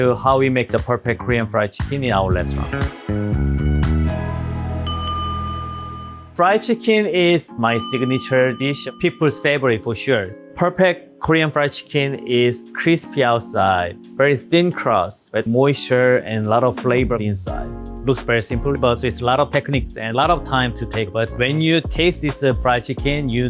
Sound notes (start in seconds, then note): 4.0 upbeat music; 4.8 bell ringing